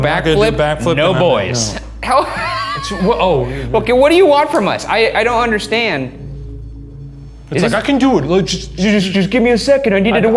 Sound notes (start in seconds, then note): 2.1 laughing; 6.5 REM-pod beeping